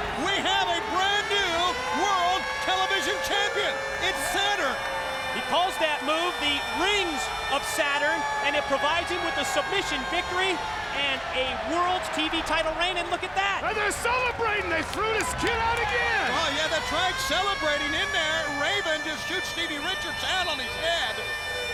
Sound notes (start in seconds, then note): 4.8 air sirens blaring